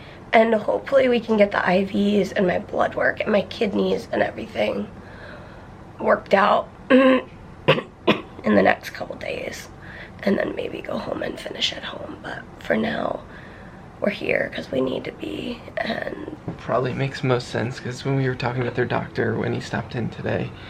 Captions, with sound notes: And hopefully we can get the IVs and my blood work and my kidneys and everything... worked out. [clears throat] In the next couple days, and then maybe go home and finish at home, but for now... we're here because we need to be and... Probably makes the most sense because when we were talking with her doctor when he stopped in today...